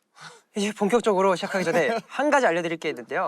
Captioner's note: haha